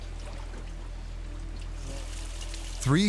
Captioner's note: water trickling